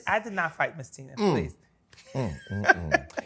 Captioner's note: laughs